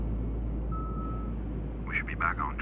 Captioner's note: airplane Radio